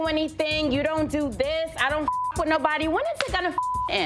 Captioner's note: beep